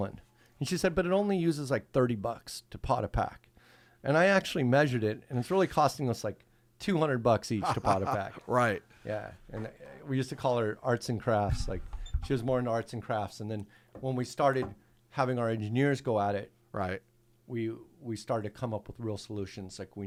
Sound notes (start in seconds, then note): 7.6 laughing